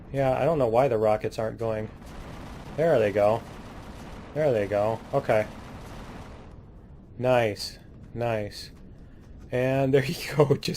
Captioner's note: laughs